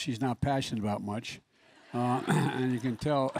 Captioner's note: laughter